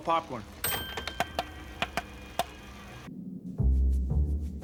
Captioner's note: <i> bell dings</i>